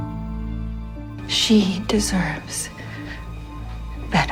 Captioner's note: voiceover